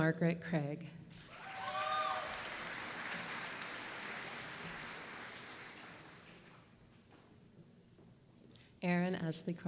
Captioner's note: applause